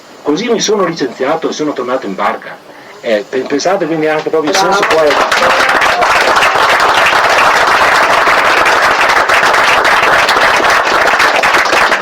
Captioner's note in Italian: Applauso